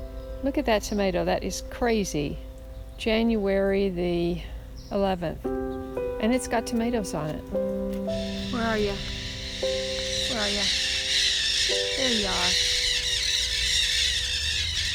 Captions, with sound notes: Look at that tomato. That is crazy. January the 9th and it's got tomatoes on it. (parrots squawking) Where are you? Where are you? There you are.